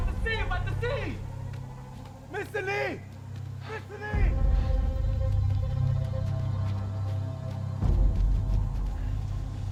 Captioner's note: speaking in foreign language